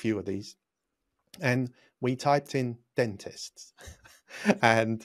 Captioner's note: laughs